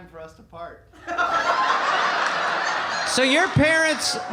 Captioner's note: audience laughing